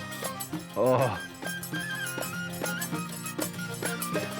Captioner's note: William groaning; upbeat music